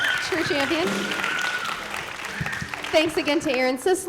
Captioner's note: applause